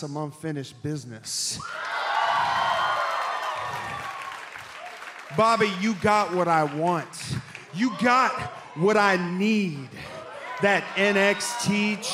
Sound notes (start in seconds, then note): 2.7 cheers and applause